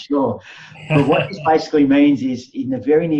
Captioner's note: laughing